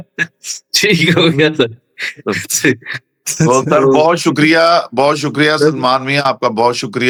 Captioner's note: laughter